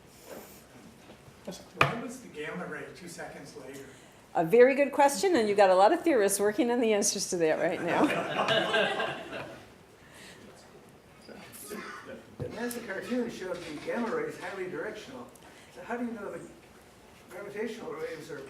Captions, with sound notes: >> Why was the gamma ray two seconds later? >> A very good question and you got a lot of theorists working on the answers to that right now. [ Laughter ] >> That massive cartoon showed the gamma rays highly directional. So how do you know the gravitational rays are